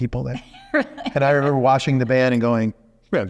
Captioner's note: laughing